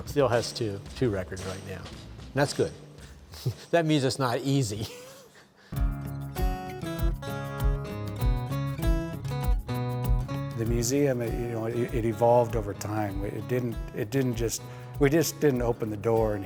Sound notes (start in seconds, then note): 4.7 laughs; 5.7 soft guitar music